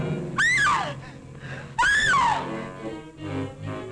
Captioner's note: Mary screaming